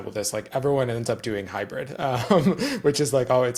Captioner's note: laughs